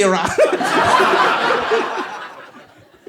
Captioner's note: laughs